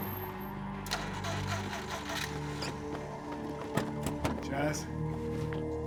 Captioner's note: car ignition rumbling